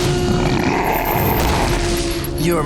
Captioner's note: grunting